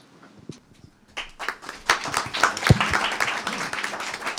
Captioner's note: applause